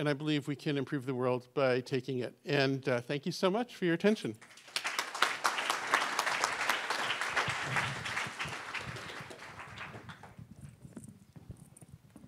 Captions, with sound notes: And I believe we can improve the world by taking it. And thank you so much for your attention. [APPLAUSE]